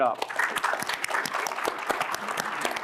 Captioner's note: applause